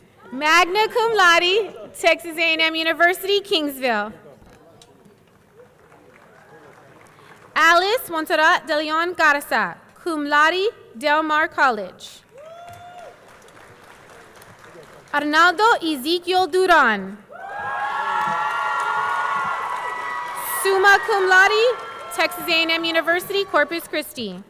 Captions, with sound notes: Magna Cum Laude, Texas A&M University, Kingsville. Alice Monsserrat DeLeon Garza, Cum laude, Del Mar College. Arnoldo Ezequiel Duran. (audience cheering) (audience clapping) Summa Cum Laude, Texas A&M University.